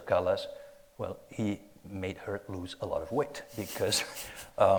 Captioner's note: chuckles